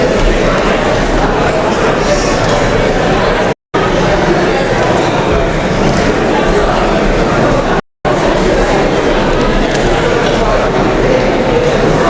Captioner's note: indistinct chatter